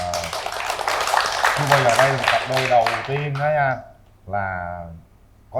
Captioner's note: applause